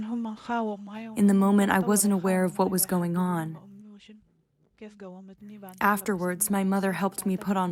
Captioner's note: through translator